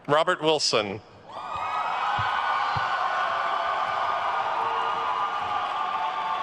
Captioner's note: attendees cheering and applauding